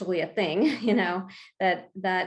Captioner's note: chuckles